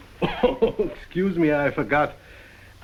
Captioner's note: coughs